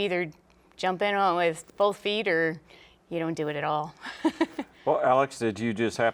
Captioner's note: laughing